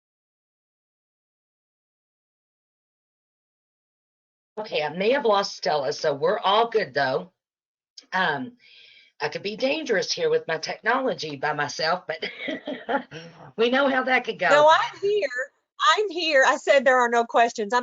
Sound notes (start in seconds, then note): 0.0 silence; 12.3 laughing